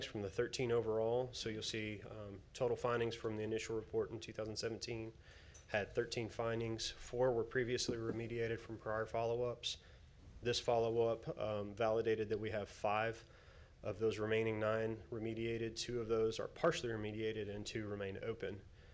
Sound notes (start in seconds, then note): none